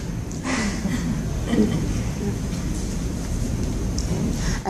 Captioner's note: laughter